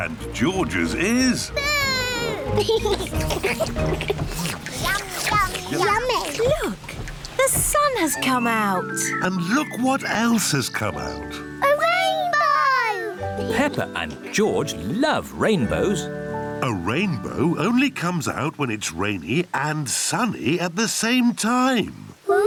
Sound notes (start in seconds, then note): 2.2 all slurp